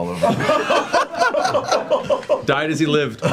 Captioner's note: all laughing